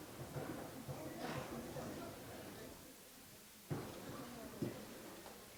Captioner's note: people chattering